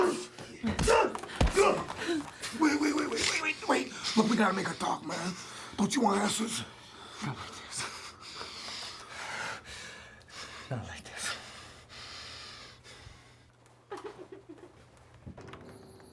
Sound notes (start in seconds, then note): 0.0 both men grunting; 0.0 blows landing; 6.7 both panting heavily